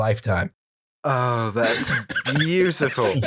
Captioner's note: laughter